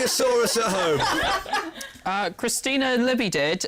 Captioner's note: laughter